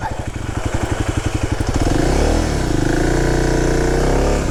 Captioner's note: bike wheels whirring